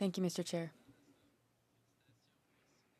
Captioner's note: speaking French